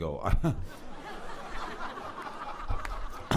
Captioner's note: laughter